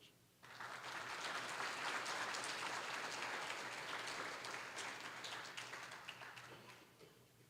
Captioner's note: applause